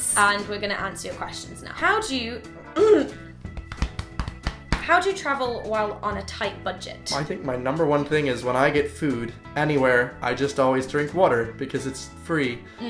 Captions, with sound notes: and we're gonna answer your questions now. "How do you (clears throat) - I think my number one thing is, when I get food anywhere, I just always drink water, because it's free.